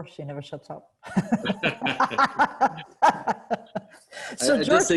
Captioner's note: both laughing